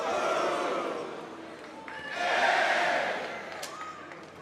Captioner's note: crowd cheers